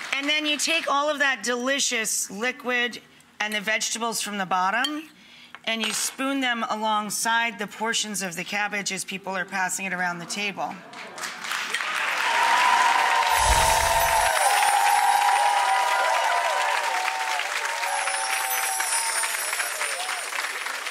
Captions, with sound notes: And then you take all of that delicious liquid and the vegetables from the bottom, and you spoon them alongside the portions of the cabbage as people are passing it around the table. (Audience cheers and applauds) (sparkling)